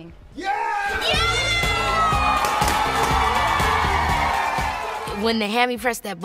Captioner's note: applause